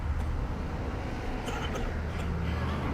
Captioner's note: coughing continues